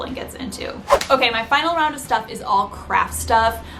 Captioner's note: frame whooshes